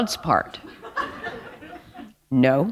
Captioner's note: chuckle